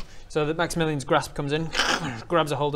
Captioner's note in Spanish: krrrkksh